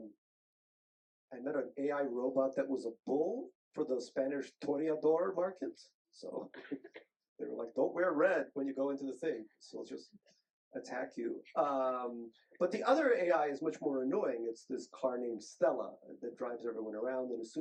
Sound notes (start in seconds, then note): 4.7 speaks Spanish; 6.3 chuckles